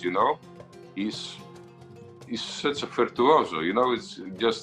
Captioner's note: speaks in foreign slang